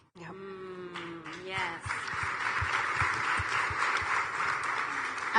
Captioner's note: audience applauding